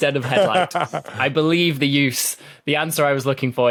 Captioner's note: laughs